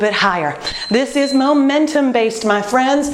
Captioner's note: beeping